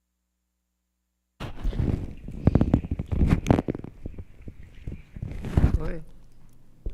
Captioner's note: microphone feedback crackling